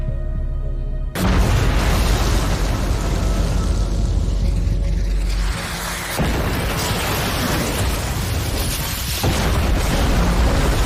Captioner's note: bombs exploding